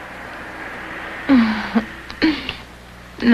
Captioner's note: laughing